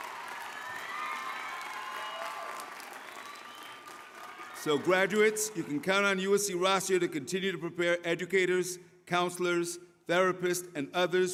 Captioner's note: applause